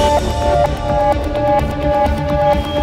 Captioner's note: Mouthing